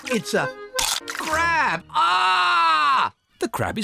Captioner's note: crunch; screams